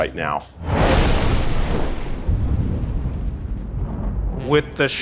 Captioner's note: thunder rolling